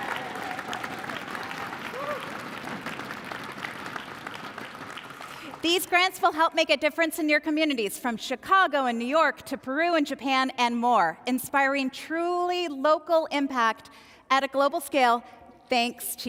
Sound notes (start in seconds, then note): 4.7 cheers and applause